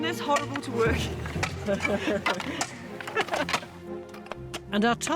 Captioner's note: chuckles